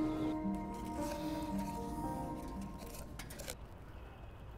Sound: paper rustling

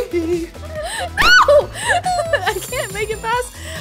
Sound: laughing

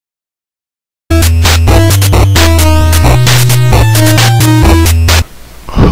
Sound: Heavy's Phone Ring

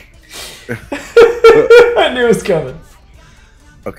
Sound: laugh

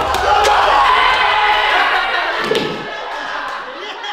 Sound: group cheering

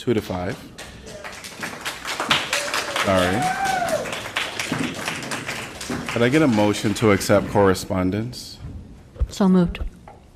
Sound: applause

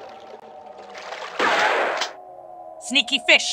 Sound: bam

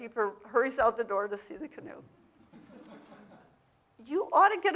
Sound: audience laughing

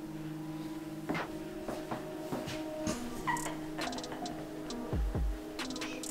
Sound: laughter; footsteps

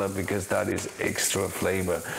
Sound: sizzling sound

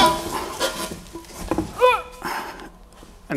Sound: grunts loudly

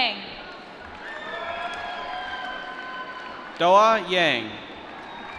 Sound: applause

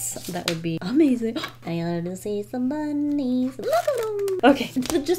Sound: gasps

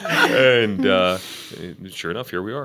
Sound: laughter

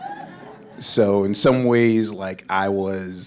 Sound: audience laughs

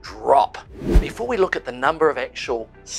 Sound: air whooshing

